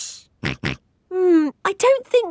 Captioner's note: snorts